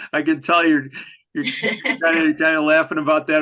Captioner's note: laughs